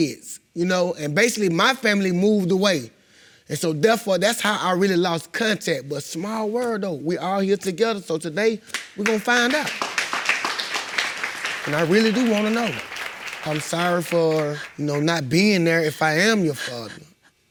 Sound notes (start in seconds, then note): 8.7 audience applauding